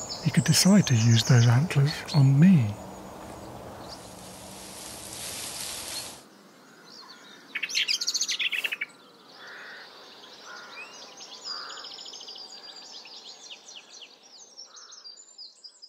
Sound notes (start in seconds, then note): 7.5 bird alarms